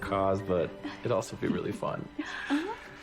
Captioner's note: chuckling